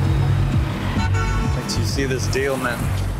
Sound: horn honking

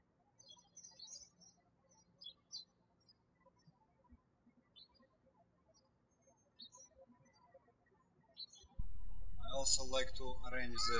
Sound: birds chirping

